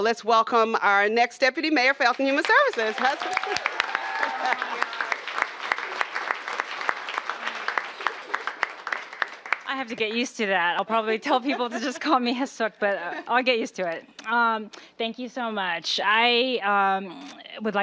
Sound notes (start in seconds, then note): 6.4 cheers and applause